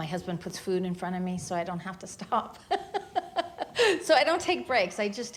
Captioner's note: laughs